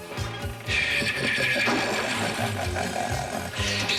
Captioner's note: evil laugh